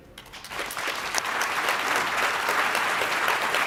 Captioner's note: applause